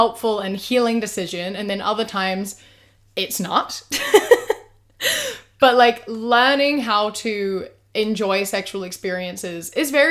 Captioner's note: laughs